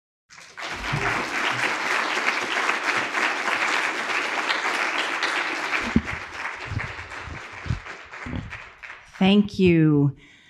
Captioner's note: audience applauding